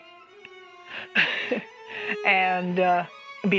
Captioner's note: laugh